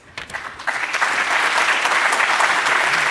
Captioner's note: applause